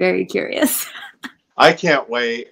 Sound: laughing

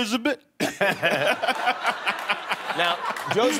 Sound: laughter

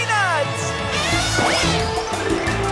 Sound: elephant horn

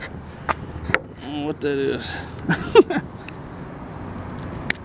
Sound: laughing

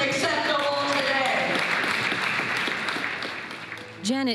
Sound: audience applauds

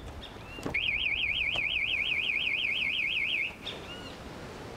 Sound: alarm chirping

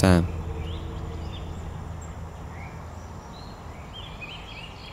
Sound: birds chirp

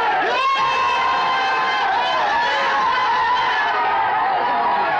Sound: all Cheering

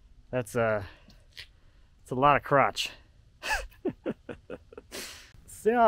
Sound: laughing

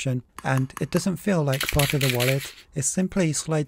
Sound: coins rattle

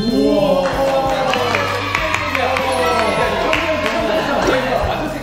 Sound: applause

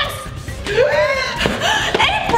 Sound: gasps

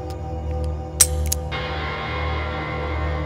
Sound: empty gun clicks

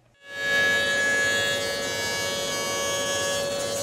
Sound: jointer buzzing

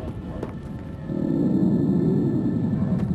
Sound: monster roar

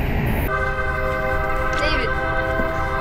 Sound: train whistle

